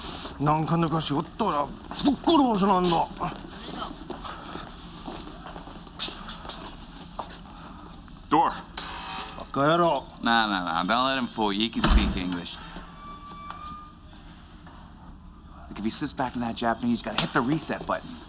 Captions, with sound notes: ( Speaking Japanese ) Door! - ( Door buzzes ) - ( Speaking Japanese ) No, no, no. Don't let him fool you. He can speak English. If he slips back into that Japanese, you gotta hit the reset button.